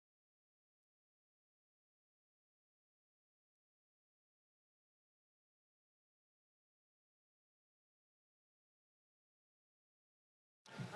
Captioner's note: some Applause